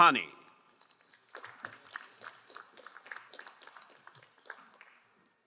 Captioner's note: crowd applauding